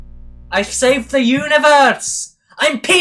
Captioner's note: scottish Accent